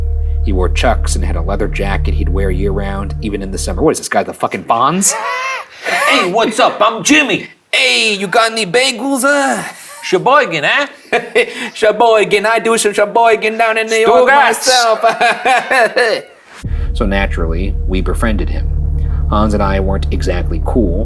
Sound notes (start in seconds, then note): 14.7 chucking